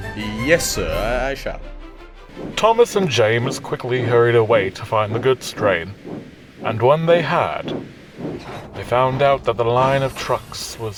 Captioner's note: in a nervous tone